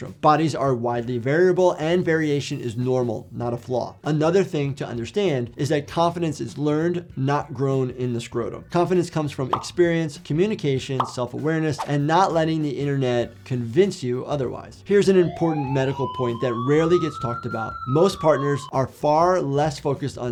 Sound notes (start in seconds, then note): 15.1 sirens blaring